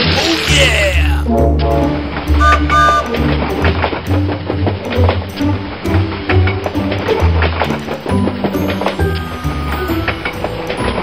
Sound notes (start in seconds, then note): 1.8 trains chug; 2.3 trains whistle